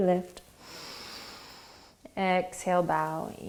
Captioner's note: inhaling